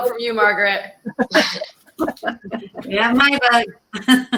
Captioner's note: laughter